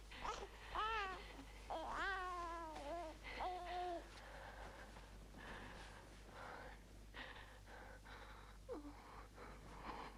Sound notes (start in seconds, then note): 1.7 baby cooing